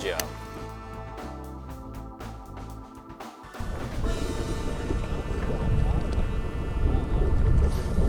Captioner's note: wind gusting